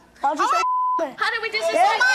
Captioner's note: beep